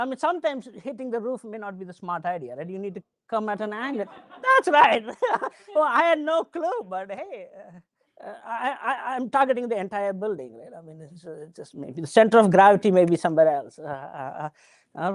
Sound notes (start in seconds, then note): 5.0 laughing